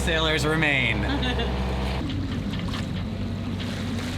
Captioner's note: laughs